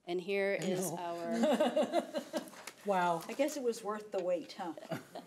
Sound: board laughing

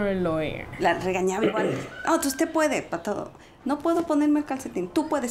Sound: speaking Spanish

